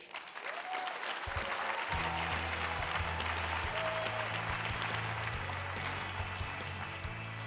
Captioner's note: audience applauds; upbeat music